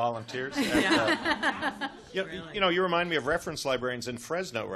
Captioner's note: chuckles